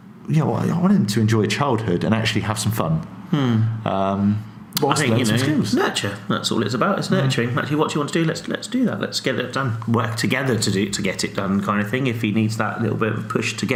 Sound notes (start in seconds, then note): none